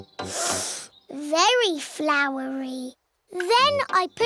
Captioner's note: sniffs